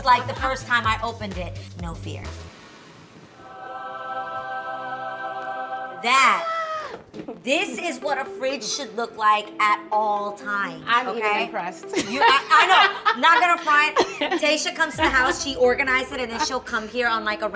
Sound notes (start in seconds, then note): 3.3 angelic choir; 11.9 laughs